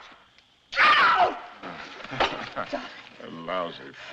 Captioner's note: chuckles